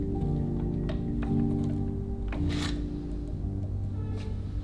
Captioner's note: machine clicks; finger taps